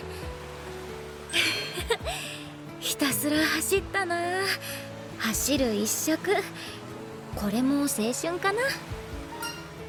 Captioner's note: laugh